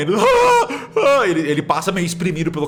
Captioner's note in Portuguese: Gritos